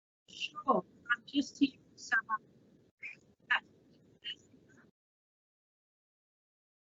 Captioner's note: faintly speaking